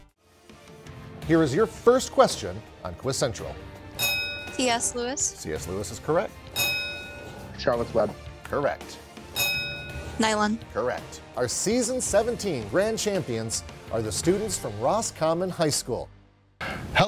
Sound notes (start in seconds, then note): 0.4 upbeat music; 3.9 bell ringing; 6.5 bell ringing; 9.3 bell ringing